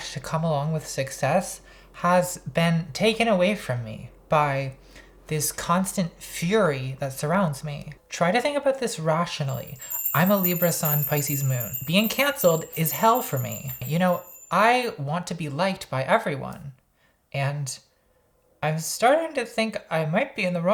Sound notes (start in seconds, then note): 9.4 twinkling